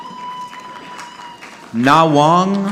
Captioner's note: audience clapping